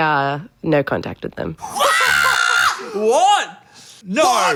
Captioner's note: Dan screeching